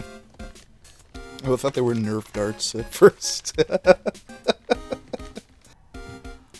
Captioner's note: chuckle